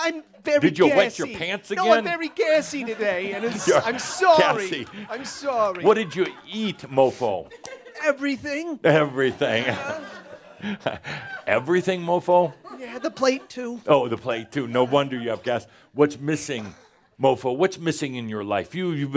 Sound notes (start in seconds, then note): 4.3 laughter; 10.6 Adamus chuckles